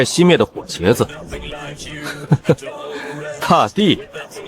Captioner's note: unintelligible laughter